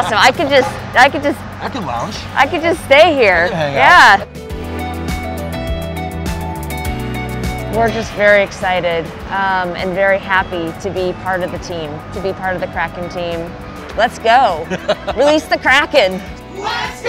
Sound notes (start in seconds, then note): 14.6 laughs